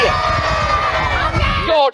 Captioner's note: cheering